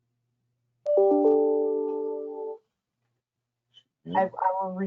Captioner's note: computer beeps